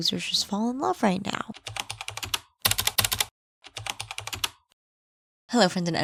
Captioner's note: typing